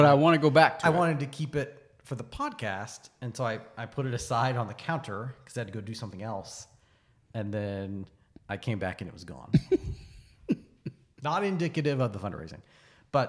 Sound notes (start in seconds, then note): 9.5 laughs